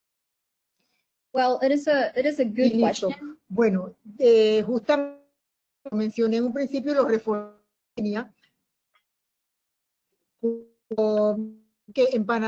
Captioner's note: Spanish